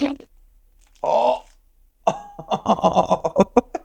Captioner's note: laughs